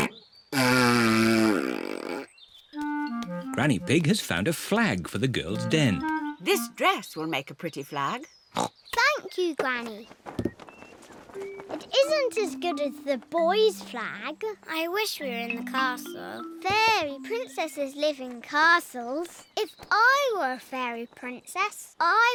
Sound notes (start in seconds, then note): 0.0 blows raspberry; 7.0 snorts